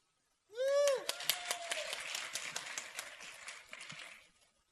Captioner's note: applause